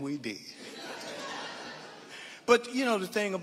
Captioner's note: audience laughing